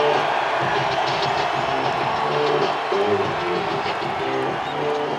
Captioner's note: crowd Cheering